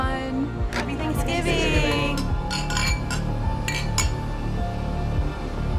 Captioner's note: glasses clinking; intense suspenseful music